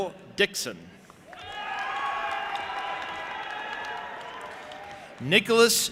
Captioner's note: audience applauding and cheering